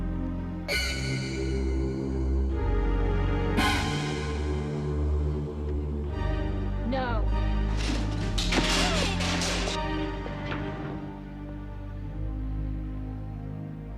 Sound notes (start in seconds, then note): 7.6 tray clacking; 7.7 dishes clattering; 10.6 soft dramatic music